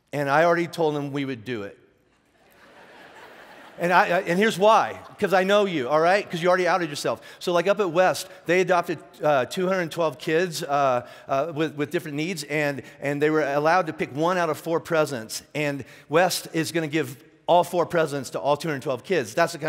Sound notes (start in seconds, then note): 2.4 laughing